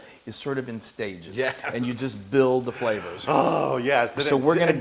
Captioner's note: laugh